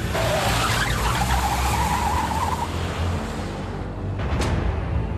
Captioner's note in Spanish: Chirrido de llantas